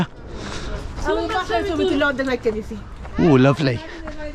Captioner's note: pedestrians chatter indistinctly